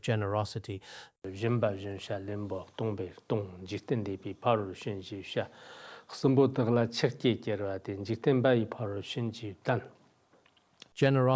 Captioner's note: giving oral transmission in Tibetan